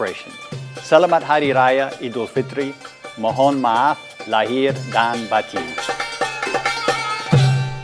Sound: non-english speech

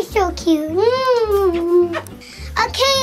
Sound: smooching sounds

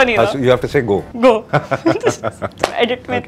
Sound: laughs

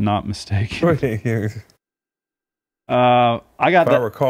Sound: Chris speaks faintly

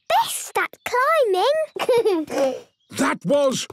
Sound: giggles

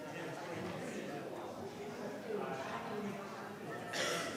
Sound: crowd chattering

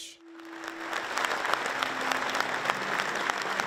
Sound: audience claps

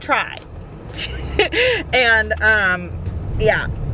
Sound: laughs

